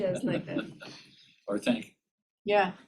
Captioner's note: laughter